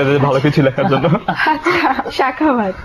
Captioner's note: laughing